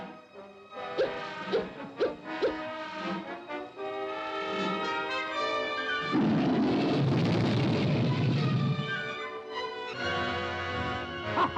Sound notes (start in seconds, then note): 0.4 ominous music; 1.0 monkey hoots; 3.5 ominous music; 6.1 crocodile roars; 9.2 ominous music; 11.3 monkey hoots; 11.4 ominous music